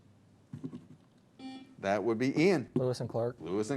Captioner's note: buzzer